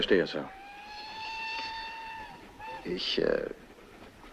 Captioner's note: train whistle blowing